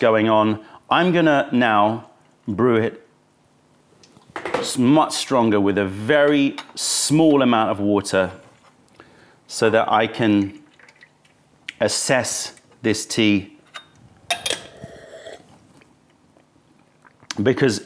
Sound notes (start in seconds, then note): 11.7 sips tea